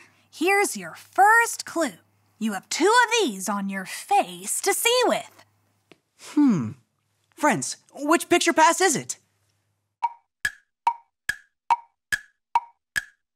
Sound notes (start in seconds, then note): 10.2 clock ticking